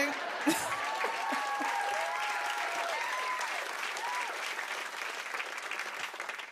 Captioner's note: cheers and applause